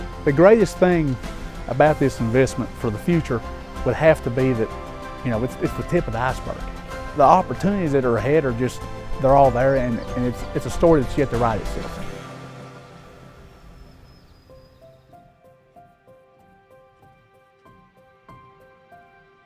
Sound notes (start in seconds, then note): 12.4 music slows; 13.7 birds chirping; 15.4 slow gentle music continues